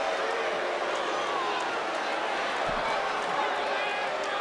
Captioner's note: crowd murmuring